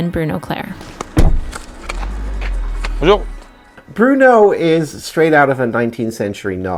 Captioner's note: door shuts